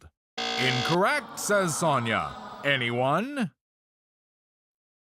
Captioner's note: low buzzer; audience sighs